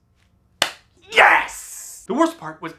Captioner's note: claps